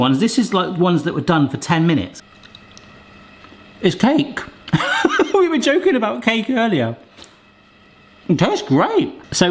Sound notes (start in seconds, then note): 4.7 laughs